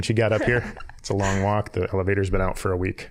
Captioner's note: laughing